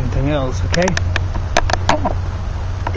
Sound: noise of tripod

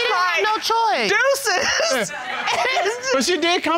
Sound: laughs

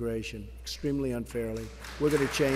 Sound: applause

